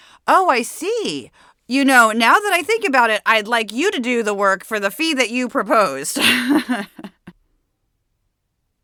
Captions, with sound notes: "Oh, I see. You know, now that I think about it, I'd like you to do the work for the fee that you proposed." [Laughs]